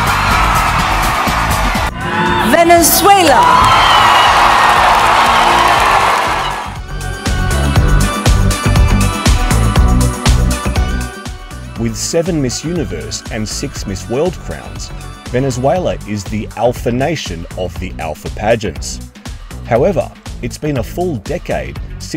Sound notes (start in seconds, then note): 0.0 audience cheering; 7.0 upbeat music